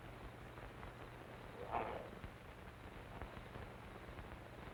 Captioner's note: wolfman snarls